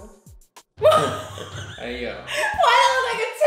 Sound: laughter

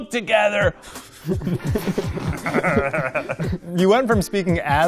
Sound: laughing

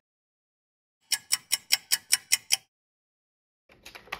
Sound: sound of a ticking clock

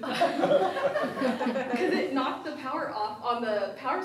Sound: laughs

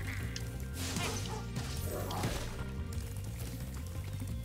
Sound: dogs bark

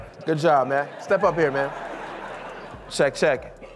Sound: audience laughing; audience laughs

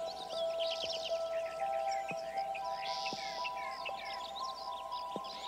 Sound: birds chirping

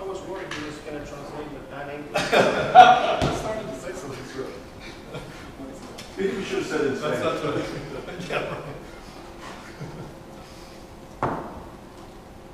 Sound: laughter

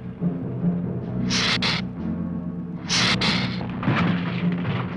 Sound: hissing

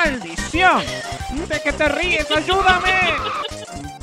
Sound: giggles

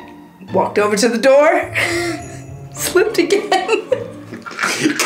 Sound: laughs

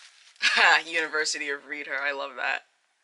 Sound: laughs

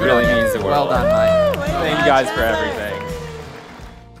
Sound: cheering

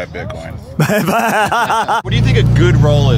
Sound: laughter

